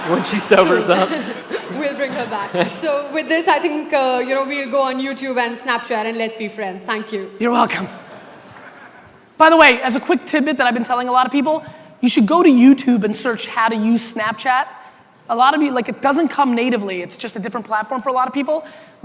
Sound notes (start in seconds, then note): 0.0 audience laughter